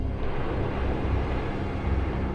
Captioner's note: jet engine roars